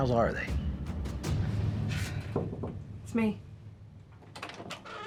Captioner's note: knocks; door creaks open, closed